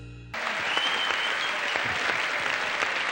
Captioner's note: audience cheering